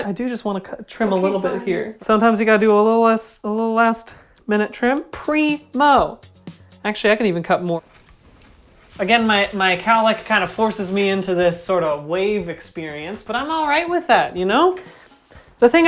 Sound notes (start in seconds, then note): 8.1 snip snip snip